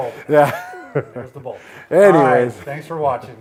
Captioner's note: laughs